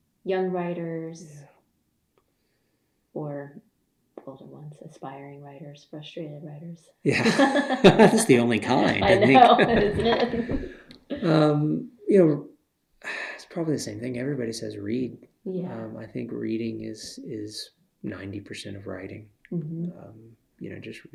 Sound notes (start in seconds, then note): 7.1 laughter